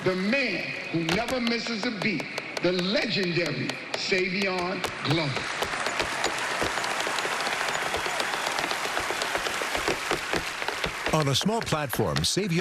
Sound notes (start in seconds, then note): 1.5 shoes tapping rhythmically; 5.0 cheering and applause; 8.2 rhythmic tapping continues